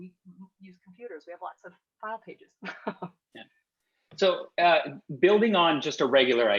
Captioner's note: laughs